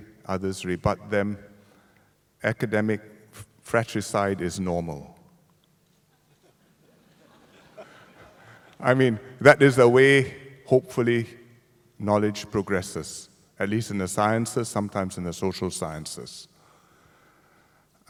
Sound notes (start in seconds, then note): 6.1 laughter